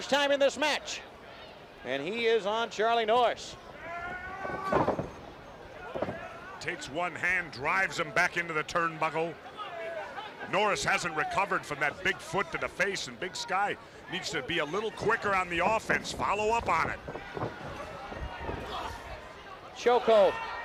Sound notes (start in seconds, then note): 12.9 crowd cheering